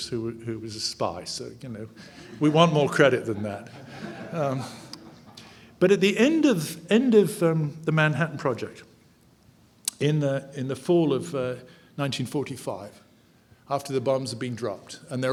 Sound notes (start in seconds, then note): 4.1 audience laughing